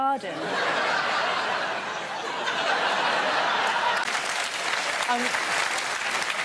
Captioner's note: laughter, applause